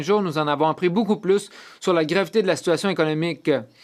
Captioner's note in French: voix de l'interprète